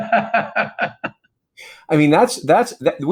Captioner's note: laughing